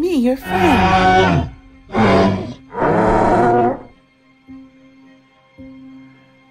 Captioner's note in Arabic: أصوات ترايسيراتوبس